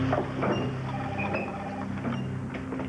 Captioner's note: telephone rings